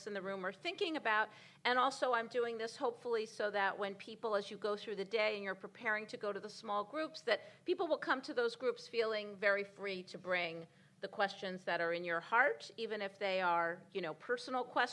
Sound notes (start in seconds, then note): none